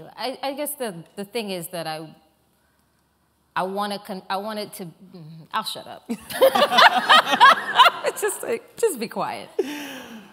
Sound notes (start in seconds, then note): 6.2 laughter